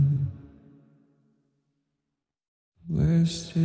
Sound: silence

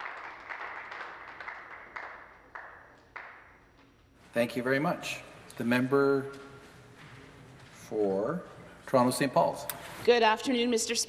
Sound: some Applause

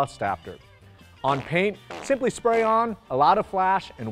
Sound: farting sounds

